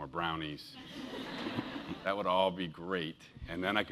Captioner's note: laugh